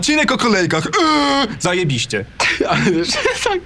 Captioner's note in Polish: śmiech